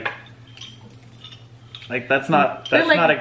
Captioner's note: soft rattling